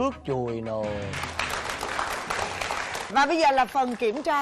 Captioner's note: applause